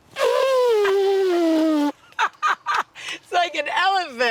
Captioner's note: elephant trumpeting sound; laughs